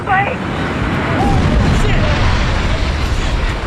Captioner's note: explosion